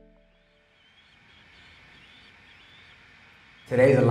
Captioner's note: chirping birds